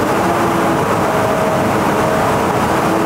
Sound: engine revving sound

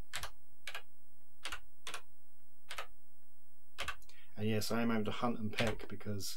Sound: keyboard clicking

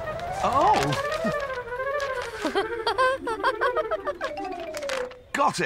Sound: wendy giggles

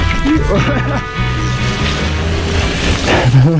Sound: chuckles

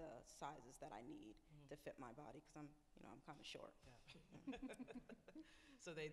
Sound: laughs

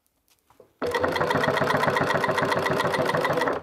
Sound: rattling of the sewing machine

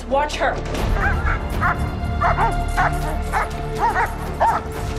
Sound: barking

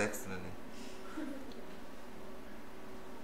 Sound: laughter

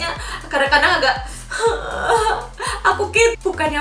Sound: crying

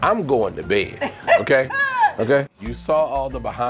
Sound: laughs

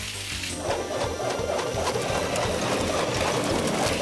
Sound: air blowing past

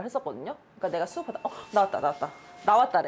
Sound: ring

